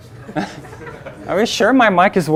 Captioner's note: audience laughing